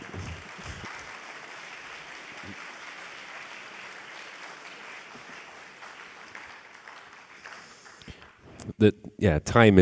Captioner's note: applause